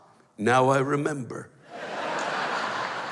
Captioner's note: laughter